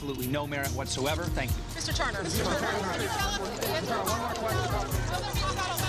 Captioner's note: reporters clamoring